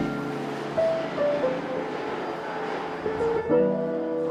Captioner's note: train rattling; pensive piano music continues